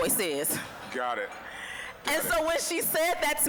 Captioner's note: scattered laughing